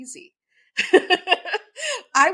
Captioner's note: laughs